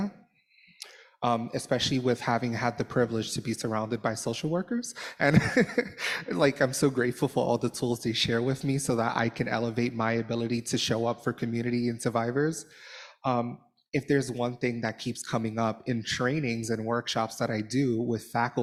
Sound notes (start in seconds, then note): 5.1 laughter